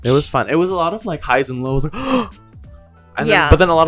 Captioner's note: gasp